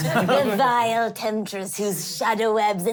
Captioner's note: laughing